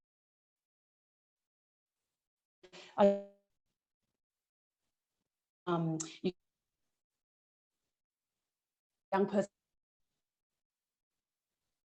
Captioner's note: audio lost